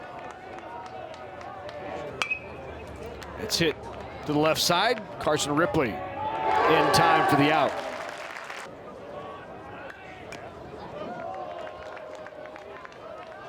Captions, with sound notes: (bat dings) It's hit to the left side. Carson Ripley, in time for the out. (fans applaud) (crowd clapping)